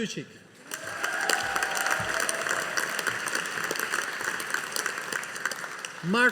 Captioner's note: audience applauding